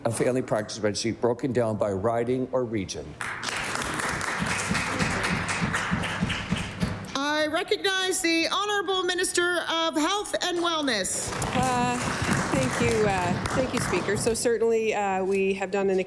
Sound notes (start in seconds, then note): 7.9 applause